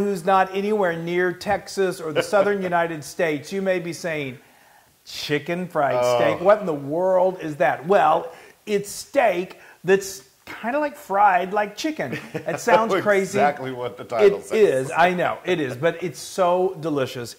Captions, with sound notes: anyone who's not anywhere near Texas, or the Southern United States, you may be saying, chicken fried steak, what in the world is that? Well, It's steak that's kind of like fried, like chicken. >> [LAUGH] >> It sounds crazy. >> It's exactly what the title says. >> It is, I know, it is, but it's so delicious.